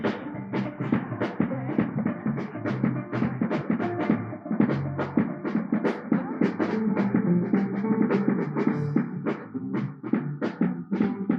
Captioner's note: applause